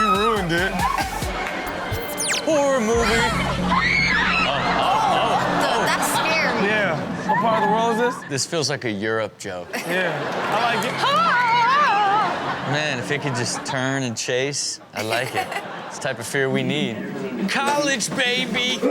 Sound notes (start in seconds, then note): 3.0 women screams; 9.7 audience laughs; 11.0 women scream; 15.0 laughs